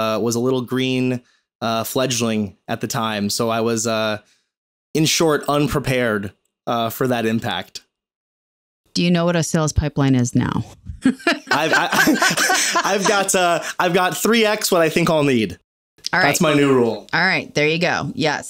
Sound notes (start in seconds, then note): 11.0 laughing